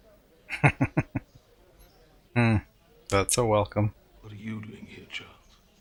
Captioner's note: chuckling